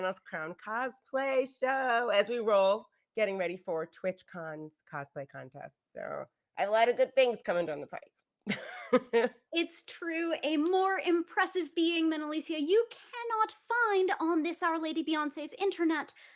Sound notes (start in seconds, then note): 8.5 laughs